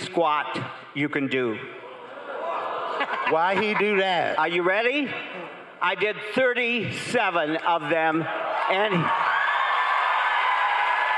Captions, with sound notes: and he paid the $3,700 for the AIDS Foundation, and I bless him to this day. (crowd cheering)